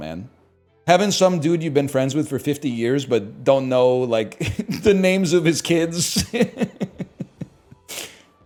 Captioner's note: laughs